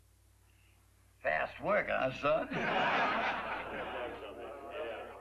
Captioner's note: laughter